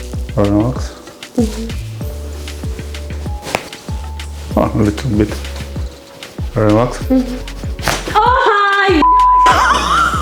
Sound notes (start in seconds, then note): 3.1 crunches of bones